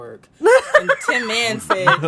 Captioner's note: laughs